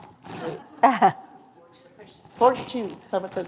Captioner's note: laughter